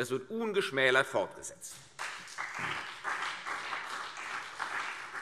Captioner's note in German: Beifall CDU und BÜNDNIS 90/DIE GRÜNEN